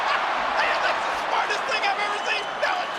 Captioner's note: laugh